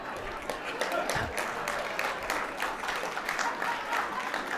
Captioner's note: audience laughing; audience applauding